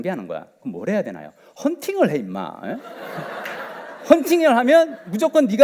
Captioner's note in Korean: 웃음